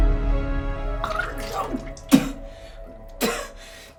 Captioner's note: vomiting